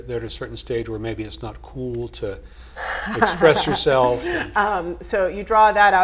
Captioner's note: laugh